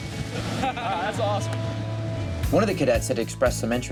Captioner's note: laughs